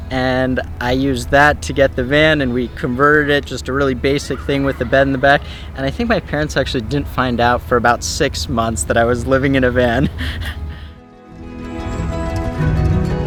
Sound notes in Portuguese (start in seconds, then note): 9.4 risos